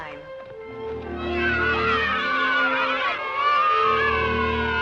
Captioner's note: children Cheering